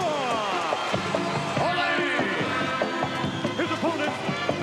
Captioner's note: audience cheering